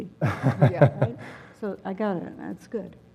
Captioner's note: laugh